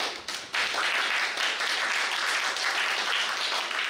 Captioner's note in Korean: 박수